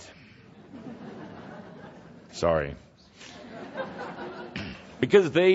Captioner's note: some laughter